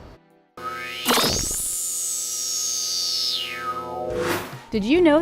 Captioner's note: sound effects